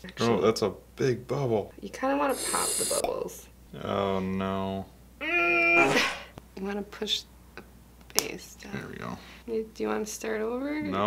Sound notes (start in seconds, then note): 6.0 fart